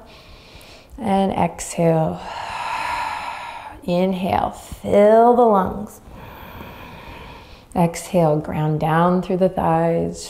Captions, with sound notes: (inhaling deeply) And exhale. (exhaling deeply) Inhale, fill the lungs. (inhaling deeply) Exhale, ground down through the thighs.